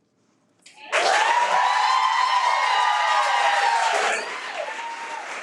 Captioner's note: audience cheering